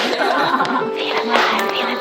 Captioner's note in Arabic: يضحك